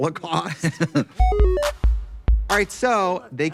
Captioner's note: Katya laughing